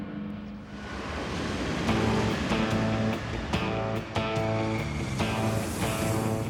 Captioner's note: plane engine roaring; upbeat music